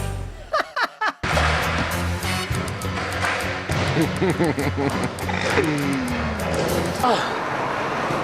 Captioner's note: laugh; skate park noises